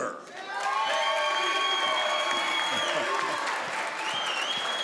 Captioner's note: crowd applauds